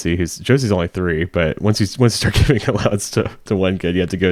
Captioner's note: laughing